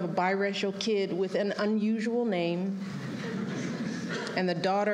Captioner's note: laughter